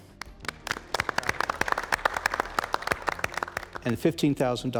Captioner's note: crowd applauding